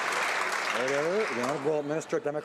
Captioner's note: some Applause